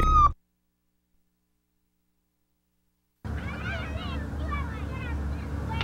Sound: no speech

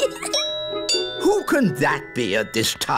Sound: giggles; doorbell rings

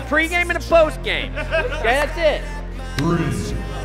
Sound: laughter

